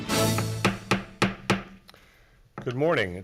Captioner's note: gavel banging